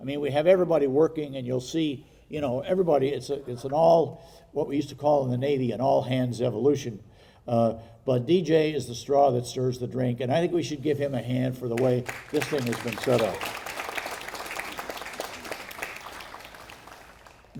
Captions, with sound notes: I mean, we have everybody working and you'll see, you know, everybody, it's an all, what we used to call in the Navy, an all-hands evolution. But, DJ is the straw that stirs the drink. And I think we should give him a hand for the way this thing has been set up. (audience applauding)